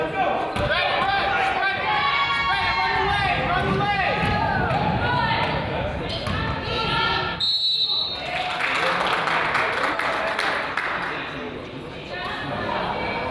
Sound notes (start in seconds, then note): 7.4 whistle blows; 8.1 crowd applauds